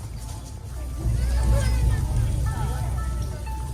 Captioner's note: people chattering; bright upbeat music